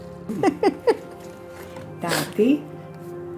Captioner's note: laughing